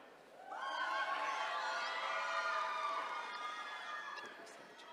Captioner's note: attendees cheering